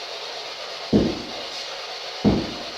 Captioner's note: two Wall Taps